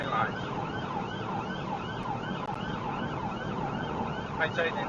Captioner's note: police car siren